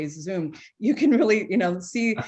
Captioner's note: chuckles